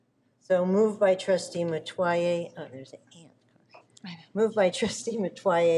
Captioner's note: talks quietly